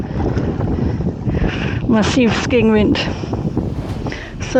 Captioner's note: strong wind